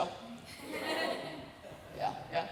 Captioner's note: laughter